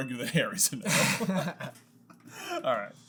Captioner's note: laughter